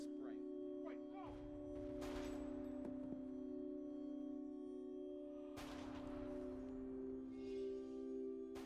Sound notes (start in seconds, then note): 0.0 foreboding orchestral music; 1.9 gun firing